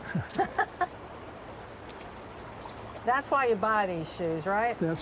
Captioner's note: laughing